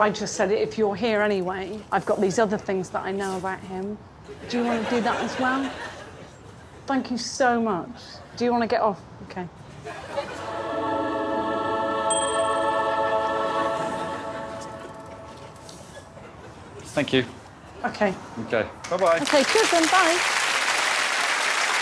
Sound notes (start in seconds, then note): 10.5 dramatic music playing; 12.1 dings